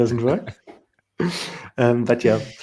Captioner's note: laughter